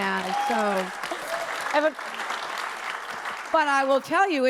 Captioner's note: audience laughs and applauds